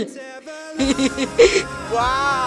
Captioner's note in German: Sie lacht